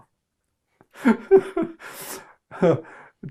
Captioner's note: laughing